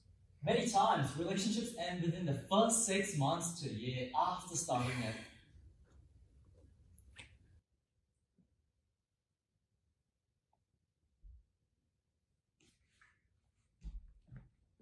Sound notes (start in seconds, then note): 4.7 frustrated sigh